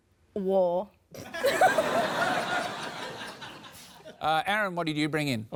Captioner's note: laughter